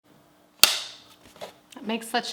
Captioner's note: clapboard claps